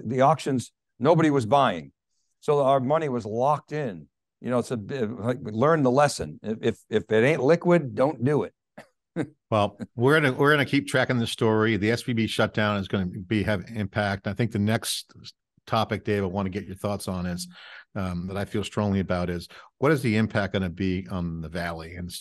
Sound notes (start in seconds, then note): 9.1 chuckling